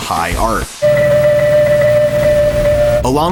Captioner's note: piping